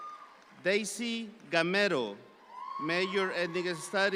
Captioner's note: audience applauds